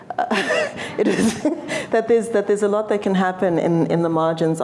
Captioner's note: laughs